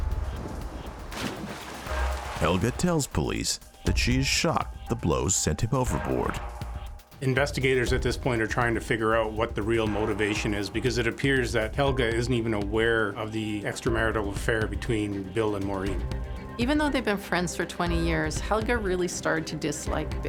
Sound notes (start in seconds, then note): 0.0 water splashing